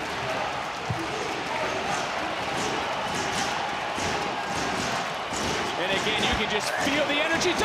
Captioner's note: audience chanting "kushida"